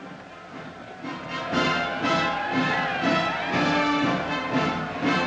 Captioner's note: cheering